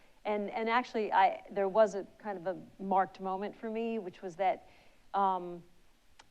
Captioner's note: none